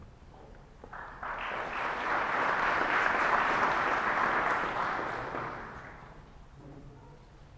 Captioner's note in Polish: oklaski